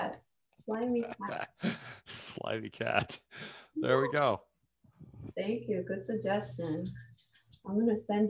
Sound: chuckles

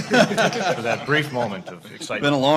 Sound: laughs

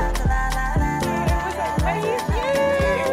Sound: chatting

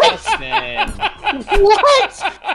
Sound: chuckles

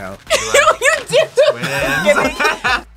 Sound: laughs

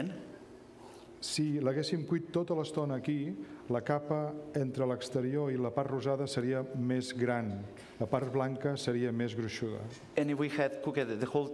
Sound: speaking catalan

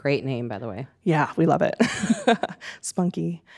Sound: laughing

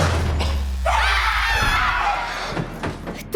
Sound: Nemo gasps; both scream

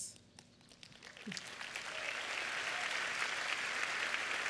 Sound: applause

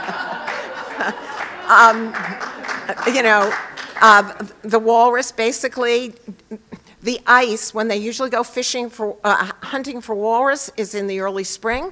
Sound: laughter

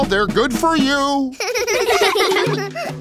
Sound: giggling

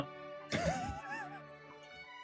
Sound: sniggering

